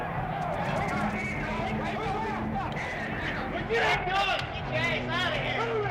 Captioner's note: clamoring